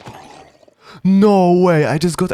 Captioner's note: gasp